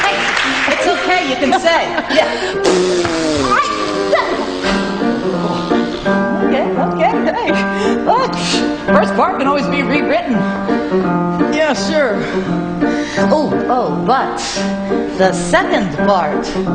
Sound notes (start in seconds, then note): 2.5 Roxie blowing raspberry; 2.7 exclaims; 8.1 exclaims